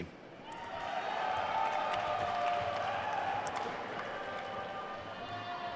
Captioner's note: attendees cheering and applauding